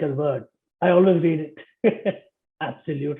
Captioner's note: laughter